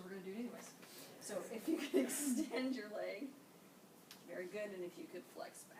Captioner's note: laughing